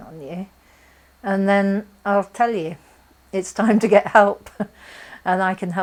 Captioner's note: chuckles